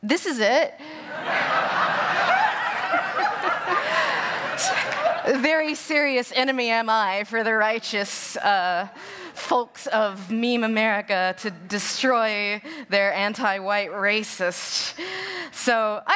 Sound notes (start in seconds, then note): 1.0 laughter; 1.2 cheering